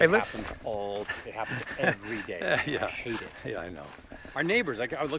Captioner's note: laughs